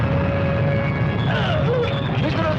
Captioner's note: groaning